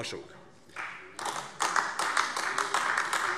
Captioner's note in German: Beifall AfD